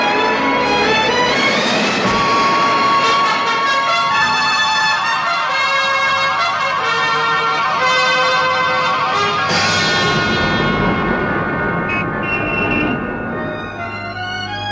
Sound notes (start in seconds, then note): 11.8 horns honking